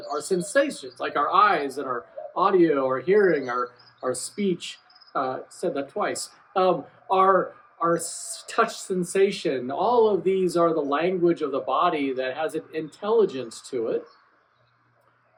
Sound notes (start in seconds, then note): 5.2 laughs